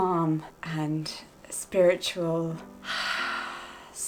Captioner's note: exhales